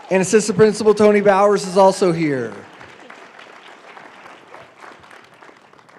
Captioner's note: applause